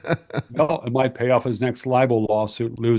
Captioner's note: laughs